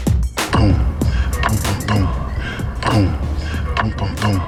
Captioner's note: energetic hip hop music; man beatboxing